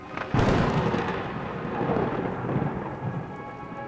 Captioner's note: thunder crashing